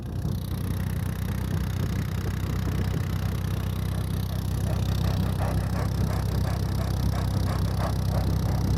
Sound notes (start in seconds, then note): 0.0 engine rumbling; 4.6 dog panting